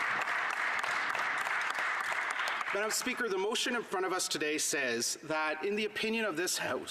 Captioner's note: some Applause